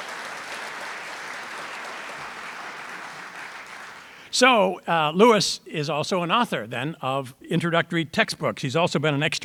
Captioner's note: audience applause